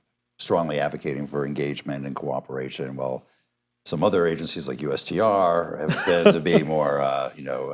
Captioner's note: laughter